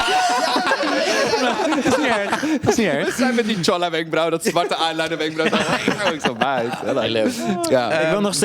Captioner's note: shrieks in agreement